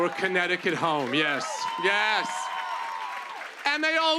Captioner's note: cheers and applause